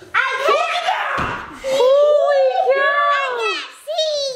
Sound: kids playing

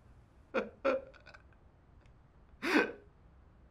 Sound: crying

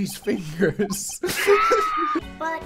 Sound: laughter

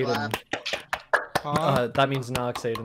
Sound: audience members applaud

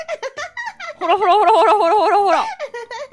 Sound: laughs

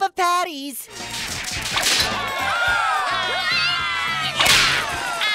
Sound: cheering

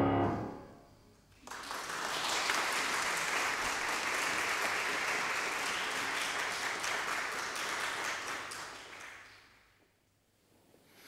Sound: applause

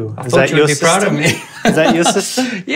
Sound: laughs

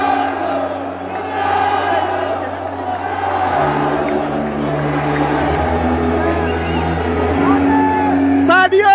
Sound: clap

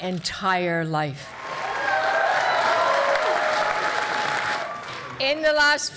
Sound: cheering

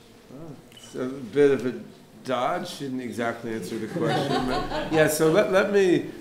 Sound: laughter

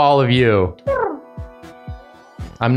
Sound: cooing

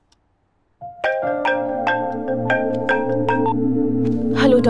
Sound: phone ringing

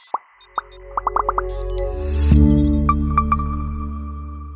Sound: electronic noises play

